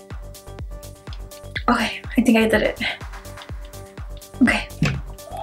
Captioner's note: clapping in background